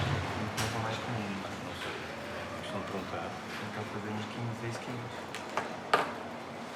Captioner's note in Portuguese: vozes